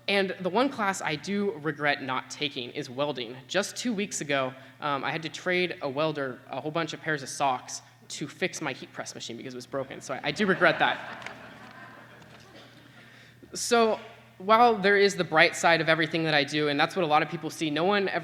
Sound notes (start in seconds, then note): 10.4 laughter